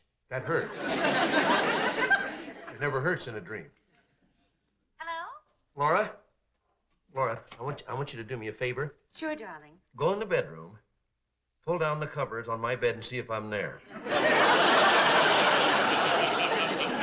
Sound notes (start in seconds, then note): 5.0 on phone